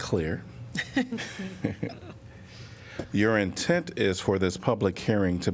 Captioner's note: laughing